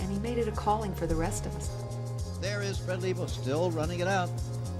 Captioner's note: man on TV